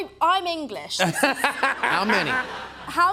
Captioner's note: laughs